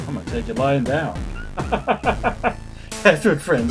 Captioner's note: laughs